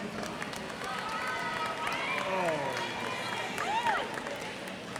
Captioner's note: cheers and applause